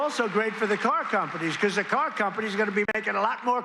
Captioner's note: applause